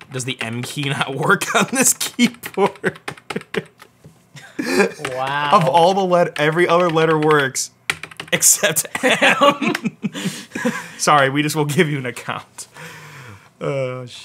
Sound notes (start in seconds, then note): 2.0 laughs